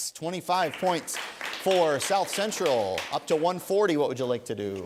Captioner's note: applause